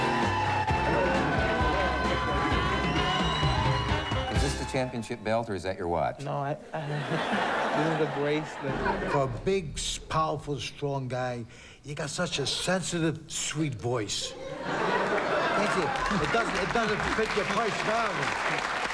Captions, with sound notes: IS THIS THE CHAMPIONSHIP BELT OR YOUR WATCH? NO, THE BRACELET. FOR A BIG, STRONG GUY, YOU GOT SUCH A SENSITIVE, SWEET VOICE. [LAUGHTER] IT DOESN'T FIT YOUR PERSONALITY.